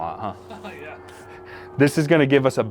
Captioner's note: laughs